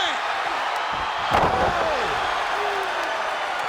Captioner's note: audience cheers